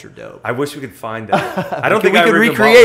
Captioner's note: laughter